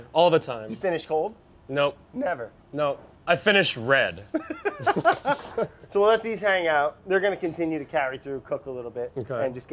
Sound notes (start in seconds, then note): 4.3 both laugh